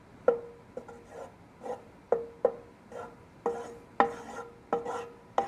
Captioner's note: spoon stirring in pan